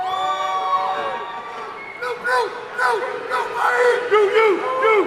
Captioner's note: man shouting in audience